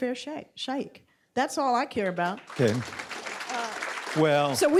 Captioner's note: applause